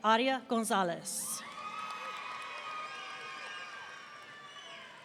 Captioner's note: audience cheering